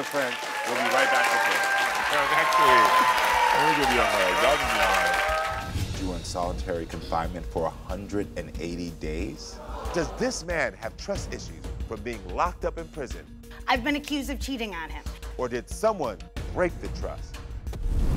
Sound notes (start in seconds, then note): 1.7 crowd cheering